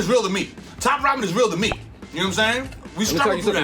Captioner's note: pops